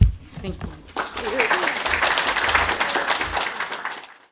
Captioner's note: applause